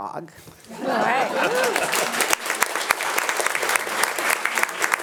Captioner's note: attendees applauding